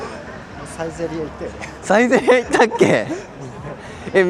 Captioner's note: laughs